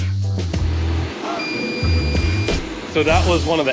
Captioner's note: beeping